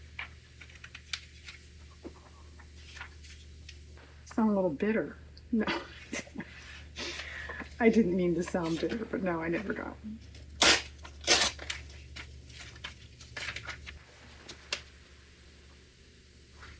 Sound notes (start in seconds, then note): 5.5 laughs